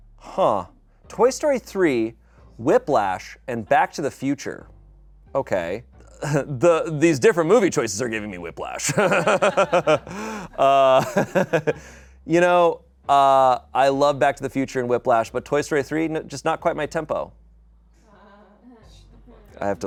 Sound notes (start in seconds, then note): 8.8 laughs; 18.6 people laugh mockingly